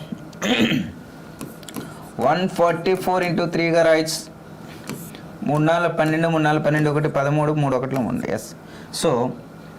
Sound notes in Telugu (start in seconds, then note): 0.4 గొంతు సవరించుకోవడం; 0.4 దగ్గు